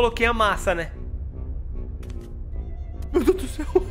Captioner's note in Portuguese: risos